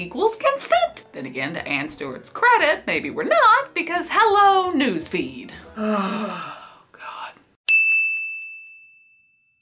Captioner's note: groans; ding